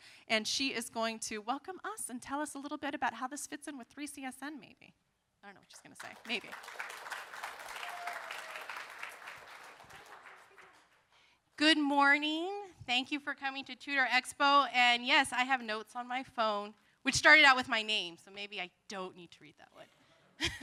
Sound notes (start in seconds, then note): 5.9 applause